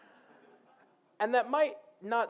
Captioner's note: laughing